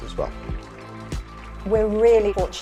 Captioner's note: crowd clapping